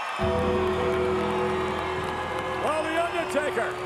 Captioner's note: bell tolls; eerie organ music